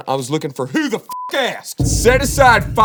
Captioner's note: beep